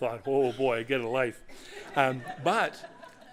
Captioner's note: laughter